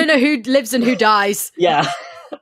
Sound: laughing

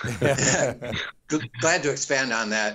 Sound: all laughing

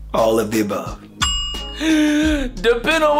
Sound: bell sound

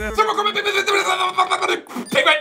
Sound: yelling jumbled words

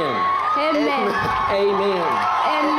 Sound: applause and cheering

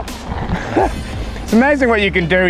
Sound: chuckles

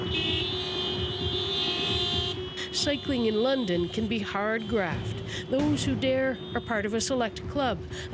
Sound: horns honking

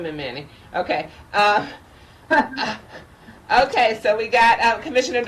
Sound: commissioners laughing

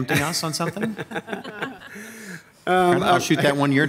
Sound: group laughing

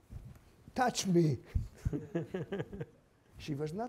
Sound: group laughing

